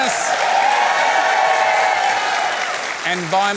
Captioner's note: cheering, applause